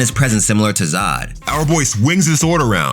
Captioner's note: air whooshing